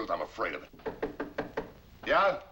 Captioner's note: knocking